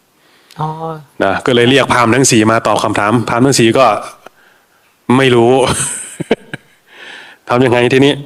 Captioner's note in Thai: เสียงหัวเราะ